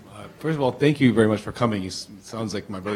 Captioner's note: voiceover